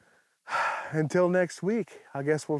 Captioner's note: sighs